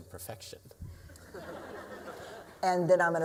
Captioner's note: laughter